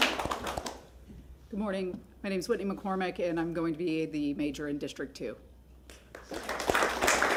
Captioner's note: applause